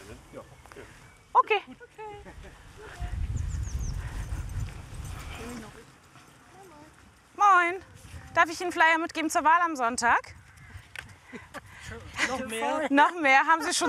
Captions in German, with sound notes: Wir fangen jetzt jetzt hier links schon an, würd ich sagen. Den Plan machen wir dann, ne? - Ja. Okay! - Okay! (Vogelzwitschern)